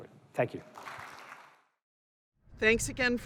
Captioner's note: applause